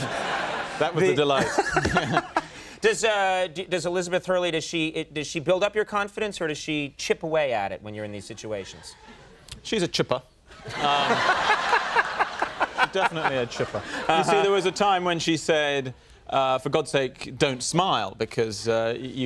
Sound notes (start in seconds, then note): 10.6 audience laughing